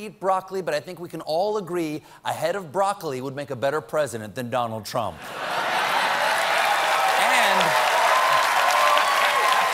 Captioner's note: cheers and applause